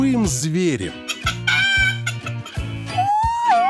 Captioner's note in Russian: кудахкает; воет